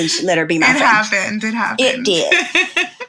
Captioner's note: laughs